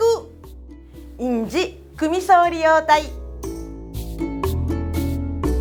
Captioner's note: in Okinawan